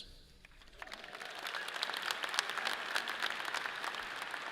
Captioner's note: audience applauds